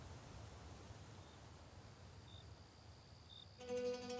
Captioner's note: crickets chirping